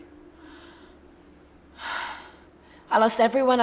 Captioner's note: sighs